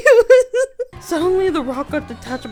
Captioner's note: laughing